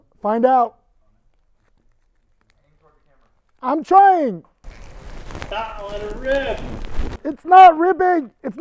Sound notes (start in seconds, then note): 4.6 tube rustling